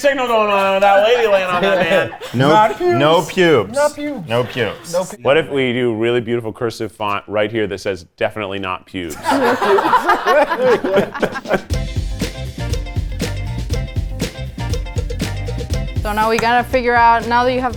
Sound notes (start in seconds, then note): 9.0 all laughing; 12.0 upbeat music